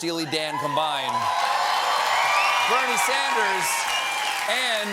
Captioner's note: cheers and applause